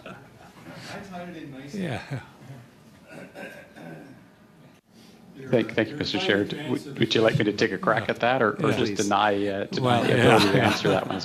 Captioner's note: laughter